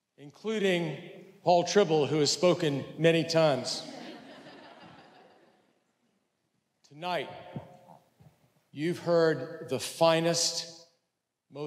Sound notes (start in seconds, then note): 3.6 audience laughs